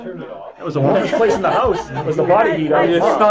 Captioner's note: crowd laughter